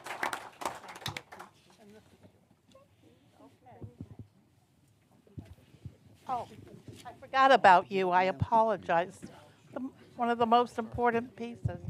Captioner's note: applause